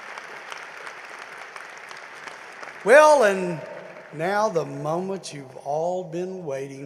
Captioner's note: applause